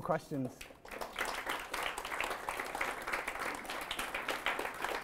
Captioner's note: audience applauds